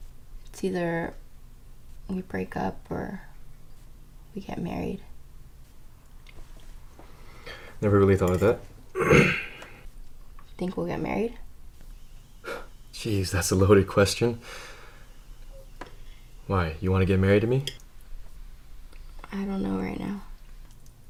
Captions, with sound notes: It's either we break up or we get married Never really thought of that *clears throat* Think we'll get married? *scoffs* Geez, that's a loaded question Why? You wanna get married to me? I don't know right now